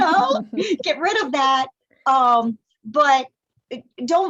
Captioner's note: laughter